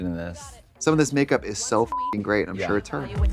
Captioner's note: beep